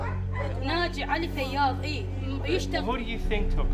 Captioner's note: Iraqi woman speaks in Arabic